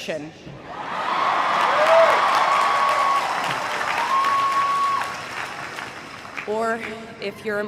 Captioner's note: crowd cheering and applauding